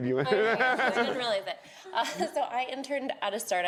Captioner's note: group laughs